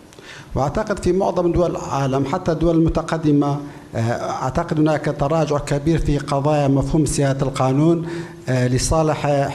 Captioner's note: speaking in foreign language